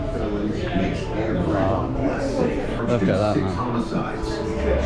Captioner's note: TV chattering